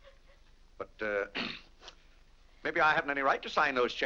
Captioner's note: clears throat